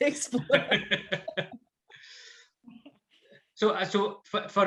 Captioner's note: laughing; laughs